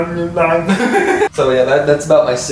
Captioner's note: guitar riff; laughs